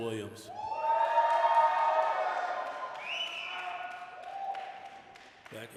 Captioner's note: applause, cheering